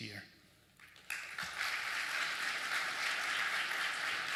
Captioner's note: applause